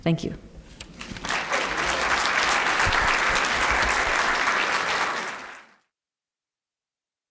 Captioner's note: applause